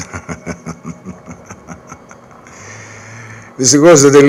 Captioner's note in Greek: γέλια